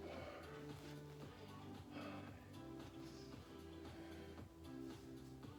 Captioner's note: breaths; upbeat music; breaths; upbeat music; breaths; upbeat music